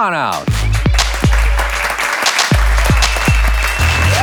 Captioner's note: audience applauds